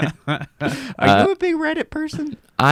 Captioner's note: everyone chuckles